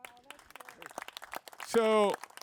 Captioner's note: crowd applauding